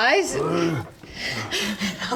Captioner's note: hrrgh